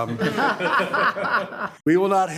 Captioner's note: board members giggling